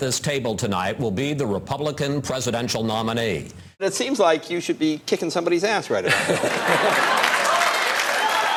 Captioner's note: laughs, applause